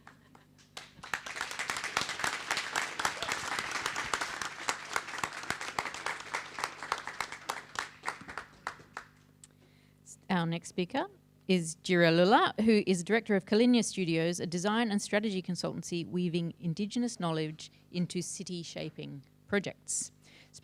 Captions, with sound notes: (person laughing) (audience clapping) - Our next speaker is Jirra Lulla, who is Director of Kalinya Studios, a design and strategy consultancy, weaving Indigenous knowledge into city shaping projects.